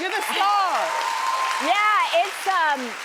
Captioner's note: audience cheers; audience applauds